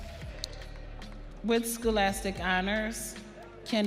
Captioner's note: audience cheering